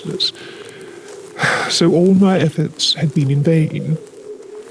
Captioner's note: sigh